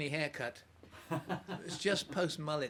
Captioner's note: interviewer laughs